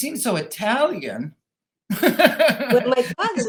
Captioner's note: laughing